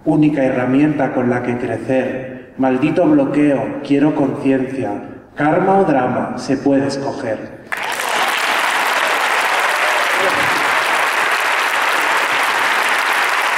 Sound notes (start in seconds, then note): 7.7 applause